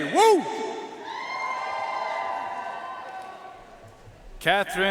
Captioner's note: audience cheering and applauding